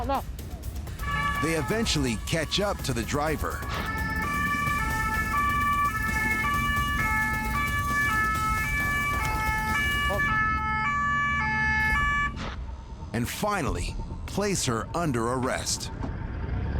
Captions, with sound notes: They eventually catch up to the driver (siren wailing) (beep) (siren wailing) and finally place her under arrest.